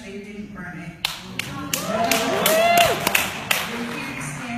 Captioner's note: wooting, hollering, clapping